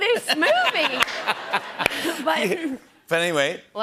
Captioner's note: laughter